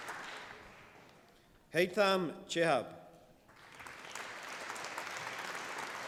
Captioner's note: applause